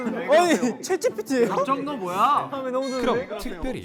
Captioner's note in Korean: 마이웨이 성우에 왁자지껄 떠들썩